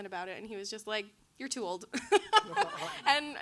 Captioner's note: laughs